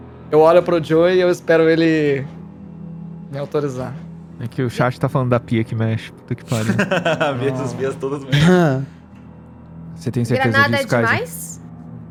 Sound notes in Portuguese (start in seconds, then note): 6.4 risada